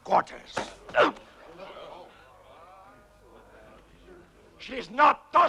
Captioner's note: chieftain grunts